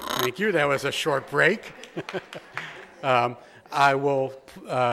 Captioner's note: chuckles